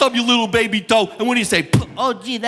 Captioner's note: mimics a knock